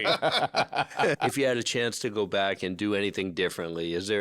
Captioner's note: laughter